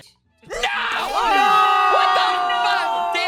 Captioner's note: yelling; all shouting; yelling; all shouting